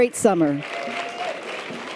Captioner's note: audience applause and cheers